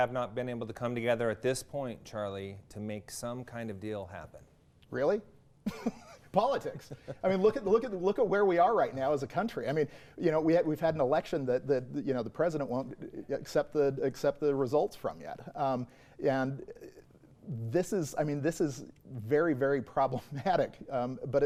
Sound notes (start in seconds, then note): 5.6 chuckles